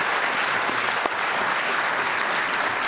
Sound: applause

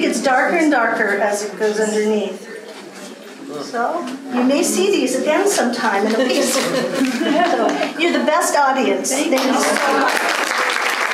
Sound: applause and thanks

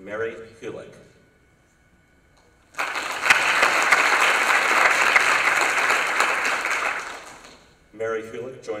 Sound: applause

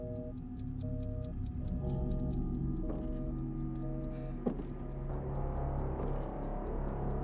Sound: timer ticks; unnerving music

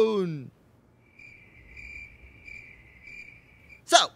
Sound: crickets chirp

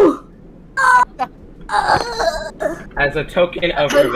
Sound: Dying Boopy noises

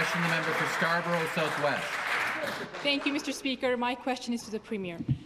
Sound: applause

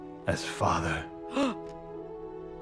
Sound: gasp

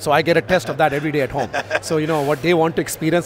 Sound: laughing

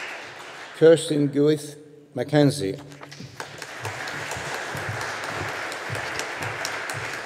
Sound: audience applauding

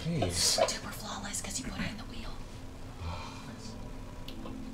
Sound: whispering

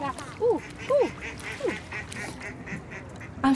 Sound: imitating duck quacking; duck quacking

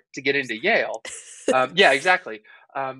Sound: laughing

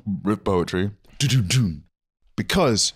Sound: mimicking drums

